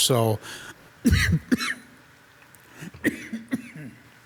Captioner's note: coughs